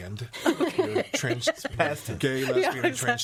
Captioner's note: all laughing